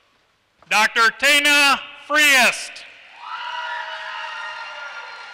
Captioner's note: applause